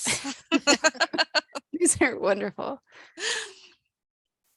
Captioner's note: laughter